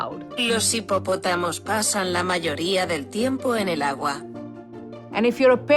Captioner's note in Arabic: متحدّث باللغة الإسبانية يقرأ جملة